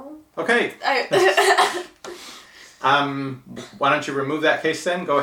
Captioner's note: laughing